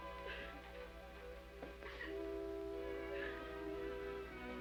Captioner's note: Amelia sobbing